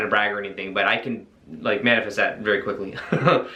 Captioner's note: chuckles